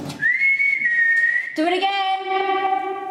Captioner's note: whistling